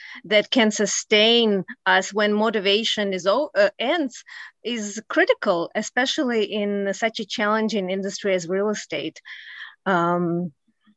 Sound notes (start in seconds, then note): none